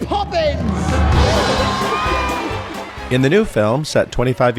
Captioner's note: cheers